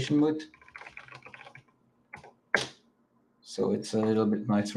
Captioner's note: keyboard clacking